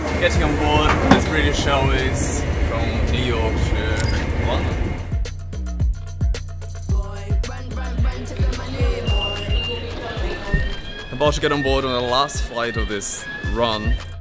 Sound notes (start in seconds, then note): 9.7 beeping